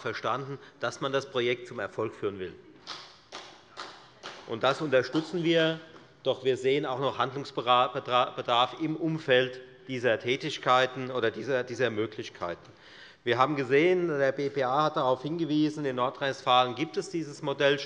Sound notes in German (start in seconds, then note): 3.3 Beifall bei der FDP